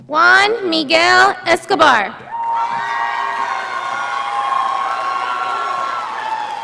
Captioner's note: audience applauding